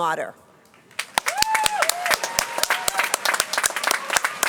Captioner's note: applause